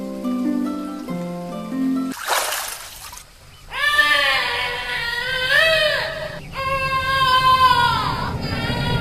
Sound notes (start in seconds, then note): 2.1 water splashing; 4.1 echoing child's yell